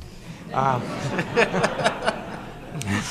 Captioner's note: laughter